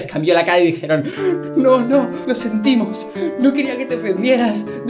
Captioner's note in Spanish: voz triste